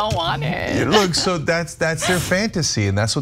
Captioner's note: laugh